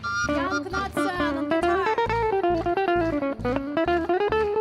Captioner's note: speaking foreign language; gentle folk music continues